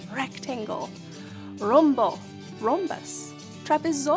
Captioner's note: speaking in foreign language